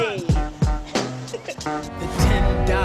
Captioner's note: giggles